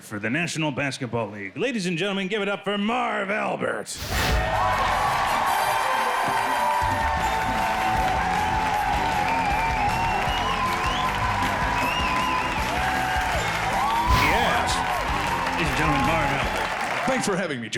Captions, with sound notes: for the National Basketball League. Ladies and gentlemen give it up for Marv Albert. (crowd cheering) - Yes. - He's doing Marv.